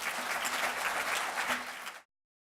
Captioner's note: clapping